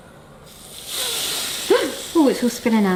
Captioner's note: press hissing